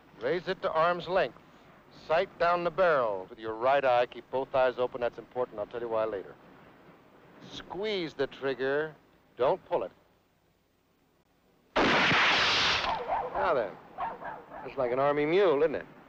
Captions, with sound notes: - Raise it to arm’'s length. Sight down the barrel with your right eye. Keep both eyes open, that's important, I'll tell you why later. Squeeze the trigger. Don't pull it. (gun fires) Now, then, just like an army mule, isn't it?